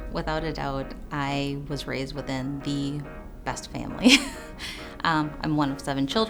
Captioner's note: chuckles